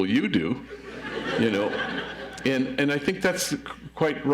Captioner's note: audience laughs